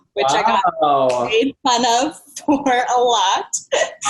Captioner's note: murmurs